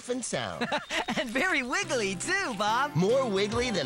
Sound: laughing

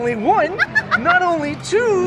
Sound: laughs

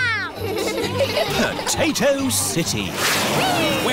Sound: all giggling

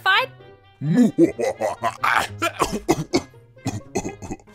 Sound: coughs

